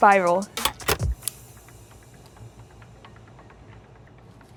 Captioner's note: lights click on